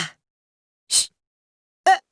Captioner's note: shush